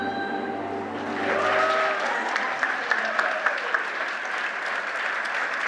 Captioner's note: audience applauding